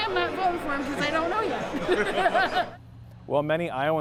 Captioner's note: laughs